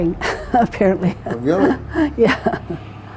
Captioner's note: laughs